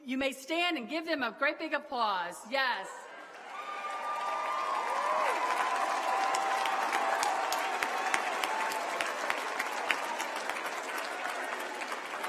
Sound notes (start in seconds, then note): 5.7 applause